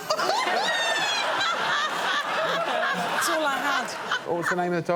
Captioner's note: laughs